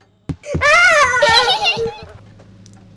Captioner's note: giggles